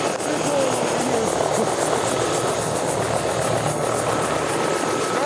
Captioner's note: helicopter idling